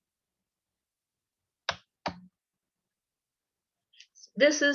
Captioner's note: keyboard sound